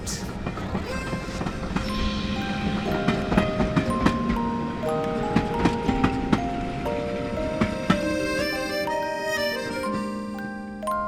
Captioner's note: train clacking